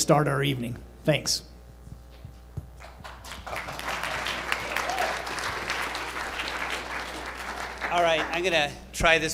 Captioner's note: applause